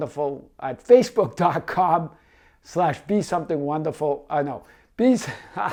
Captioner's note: laughs